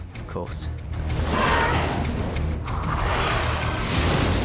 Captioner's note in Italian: drago strilla